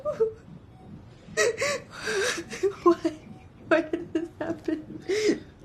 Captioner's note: sobbing